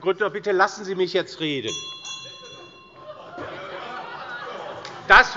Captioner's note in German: Lachen bei der CDU - Unruhe - Glockenzeichen des Präsidenten